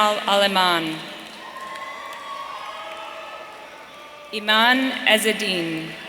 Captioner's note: audience cheering